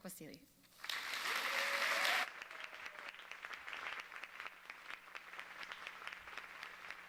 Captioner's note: audience cheering and applauding